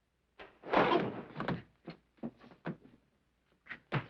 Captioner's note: loud crash